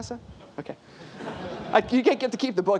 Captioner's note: laughter